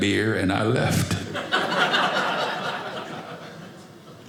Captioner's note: audience laughing